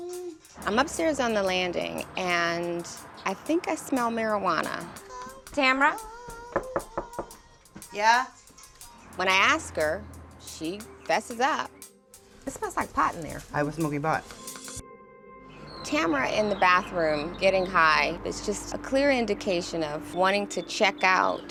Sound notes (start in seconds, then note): 6.2 knocking